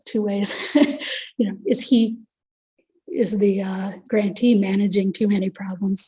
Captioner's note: chuckles